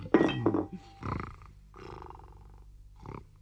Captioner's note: snores